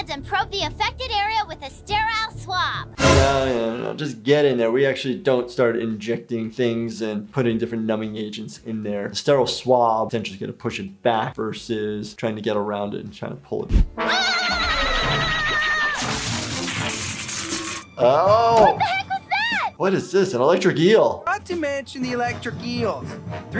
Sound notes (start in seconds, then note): 14.0 Beth screams; 17.0 electric shock